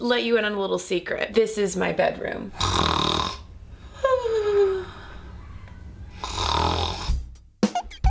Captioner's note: snoring